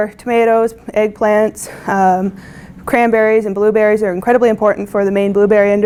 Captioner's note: bumble bees